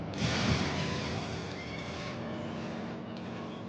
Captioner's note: fire blasting